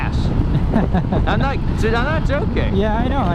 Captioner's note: laughs